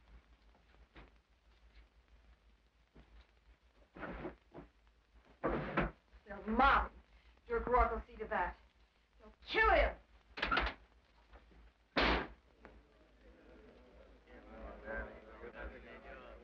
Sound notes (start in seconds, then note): 12.0 door slams; 12.7 men chatter